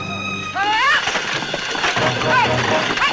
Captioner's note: shouts; exciting music